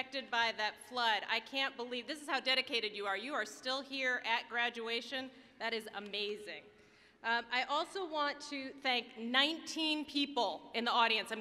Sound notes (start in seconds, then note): none